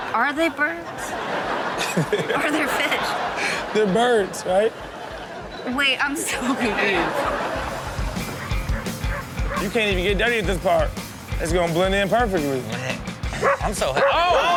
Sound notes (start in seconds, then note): 3.1 everyone laughs; 7.1 audience laughs; 8.0 upbeat music